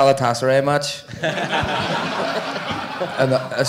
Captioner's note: audience laughing